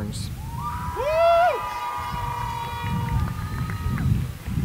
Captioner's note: cheering